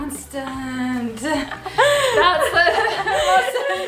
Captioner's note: laughs